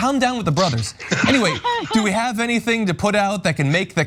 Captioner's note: laugh